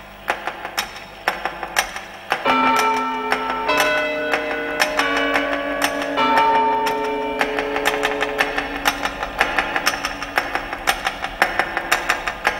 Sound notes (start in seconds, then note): 2.4 chiming and ticking